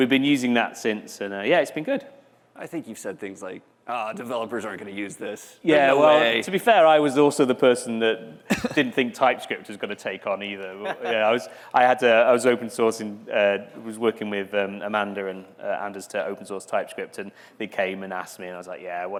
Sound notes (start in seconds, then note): 10.8 laughter